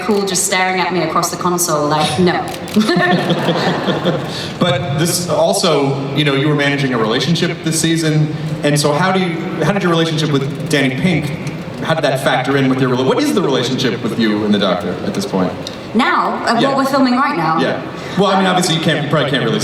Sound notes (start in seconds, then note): 2.5 laughing; 5.2 voiceover; 17.7 voiceover